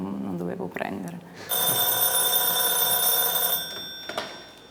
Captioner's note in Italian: squilla il telefono